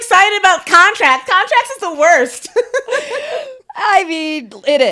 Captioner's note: both laughing